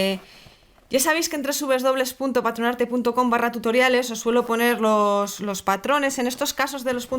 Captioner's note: Spanish